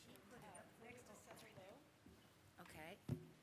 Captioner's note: speaking quickly off mic